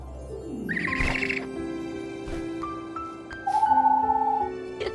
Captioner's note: owl hoots; bright mystical music; owl vocalizes; owl hoots